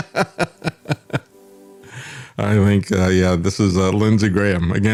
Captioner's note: laughs